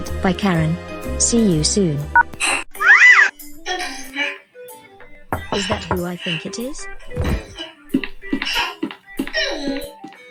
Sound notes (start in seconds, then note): 5.0 door knocking again